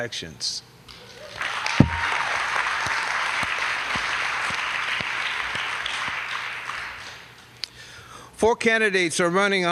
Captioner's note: applause